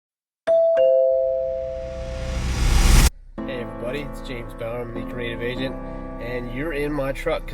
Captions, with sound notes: (doorbell) - Hey, everybody. It's James Bowerman, the Creative Agent, and you're in my truck